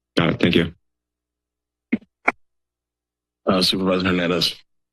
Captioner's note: silence